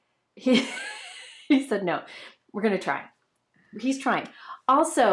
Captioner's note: laughs